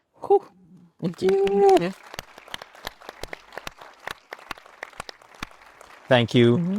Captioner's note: attendees applauding